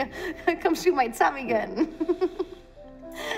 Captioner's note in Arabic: يضحك